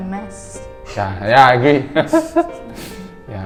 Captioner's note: laughing